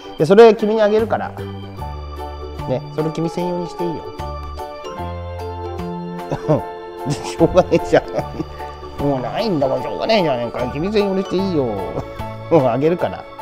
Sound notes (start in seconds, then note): 7.0 laughs